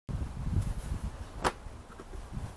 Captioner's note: bag swishes